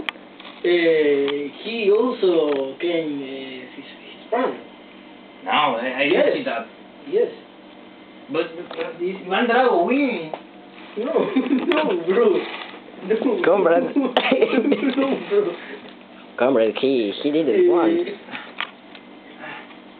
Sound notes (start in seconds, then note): 13.9 risas